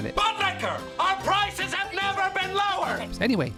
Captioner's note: yelling